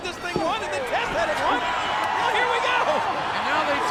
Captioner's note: audience cheers